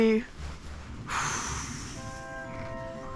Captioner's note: calming exhale